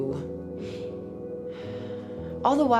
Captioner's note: sighing